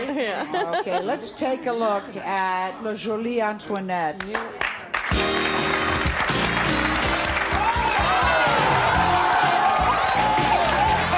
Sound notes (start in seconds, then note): 3.7 audience cheers; 5.0 upbeat music